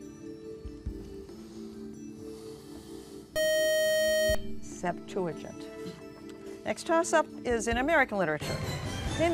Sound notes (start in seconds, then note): 3.3 buzzer